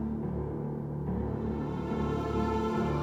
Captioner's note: none